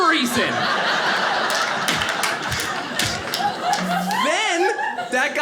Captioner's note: audience laughing